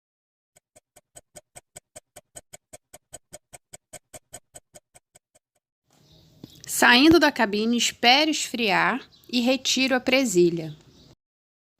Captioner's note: laugh